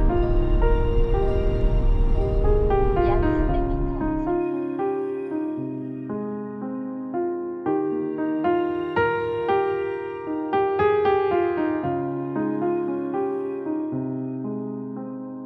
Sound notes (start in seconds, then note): 7.8 drone